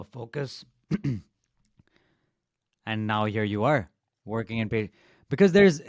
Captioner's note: clears throat